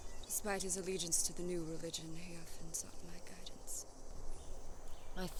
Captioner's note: none